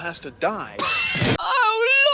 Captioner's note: gagging